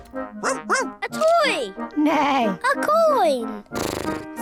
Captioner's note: barks; neighs; snorts